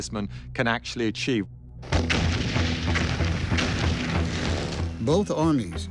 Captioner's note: explosions booming